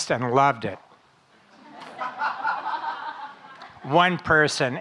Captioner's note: audience laughing